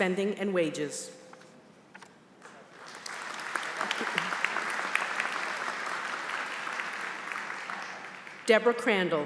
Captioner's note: applause